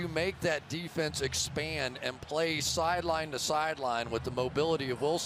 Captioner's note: cheering